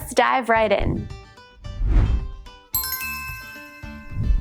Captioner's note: whooshing